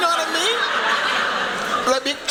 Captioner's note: laughter